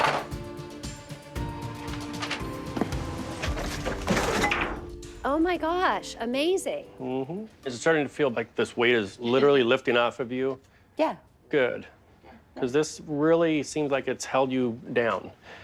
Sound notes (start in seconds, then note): 1.8 objects clattering; 2.9 light suspense music